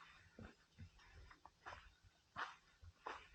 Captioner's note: none